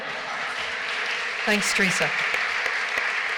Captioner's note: applause